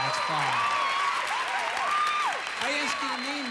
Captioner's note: audience applauding